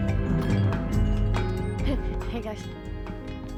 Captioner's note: bells jingle